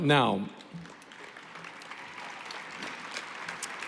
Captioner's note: applause